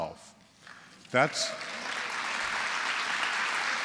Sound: applause

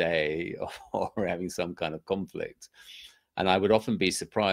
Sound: laughs

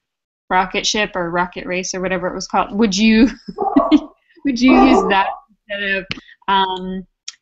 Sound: laugh

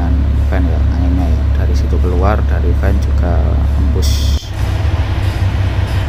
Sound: engine

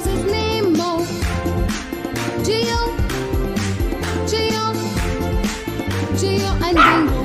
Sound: clap – Clap – Clap

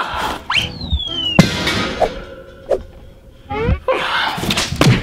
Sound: sword lands

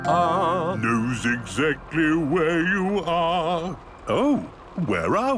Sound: mimicking tune

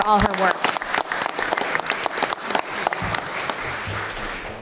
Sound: applause

